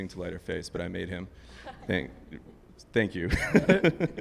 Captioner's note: laughs